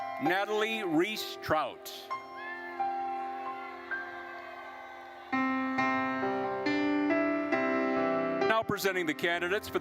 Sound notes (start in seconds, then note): 0.0 gentle music; 2.2 attendees cheering; 2.5 gentle music continues